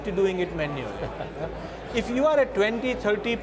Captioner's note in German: lacht